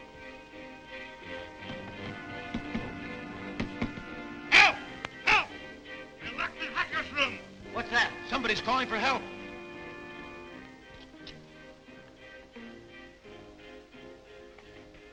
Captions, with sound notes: (dramatic music continues) (Crash knocking) Help! Help! We're locked in Hakur's room! - What's that? - Somebody's calling for help. (dramatic music continues)